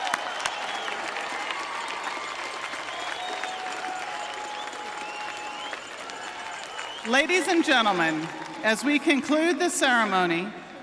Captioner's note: cheering and applause